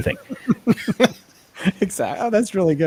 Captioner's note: laughing